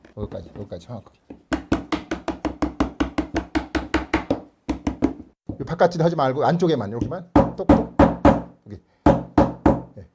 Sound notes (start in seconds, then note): 1.5 hammering sound; 7.4 hammering sound